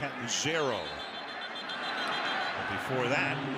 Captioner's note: whistle blows